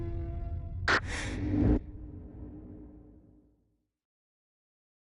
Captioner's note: logo clicks